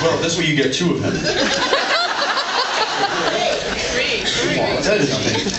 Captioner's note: laughs